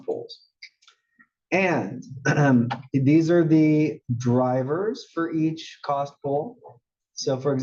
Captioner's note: cough